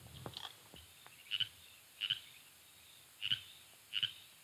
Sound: frogs croaking

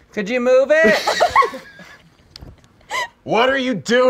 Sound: laughing

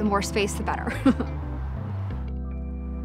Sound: laughs; gentle music

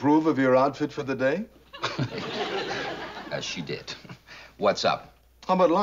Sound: chuckles

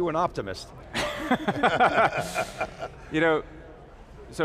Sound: all laugh

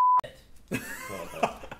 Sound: laughs

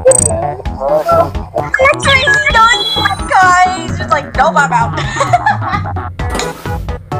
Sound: laughing

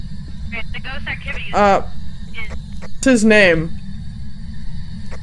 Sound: over Radio

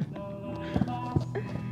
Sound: laughs

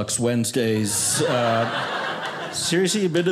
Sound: audience laughing

